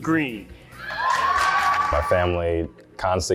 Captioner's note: crowd cheering